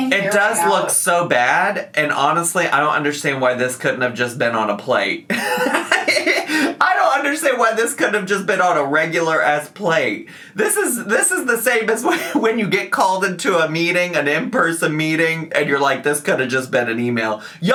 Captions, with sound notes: - It does look so bad, and honestly, I don't understand why this couldn't have just been on a plate. (laughs) I don't understand why this couldn't have just been on a regular ass plate. This is the same as when you get called into a meeting, an in-person meeting, and you're like, "This could've just been an email."